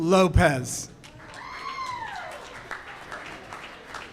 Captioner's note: audience cheers